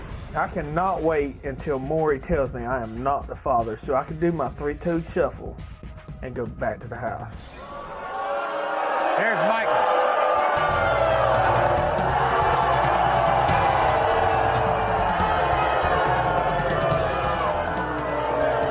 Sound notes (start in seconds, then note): 7.6 audience yelling; 10.4 audience screaming